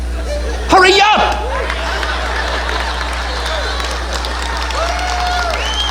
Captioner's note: audience laughing and applauding